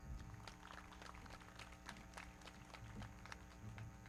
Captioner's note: everybody clapping